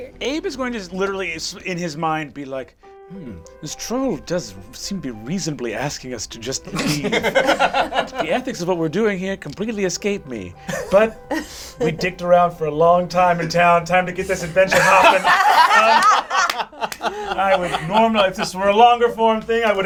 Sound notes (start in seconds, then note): 14.4 all laugh